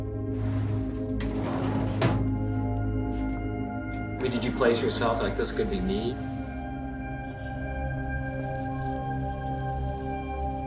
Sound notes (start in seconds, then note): 0.3 file cabinet drawer closing; 8.0 gentle music